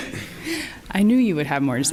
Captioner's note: laughs